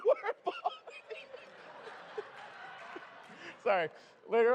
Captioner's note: laughter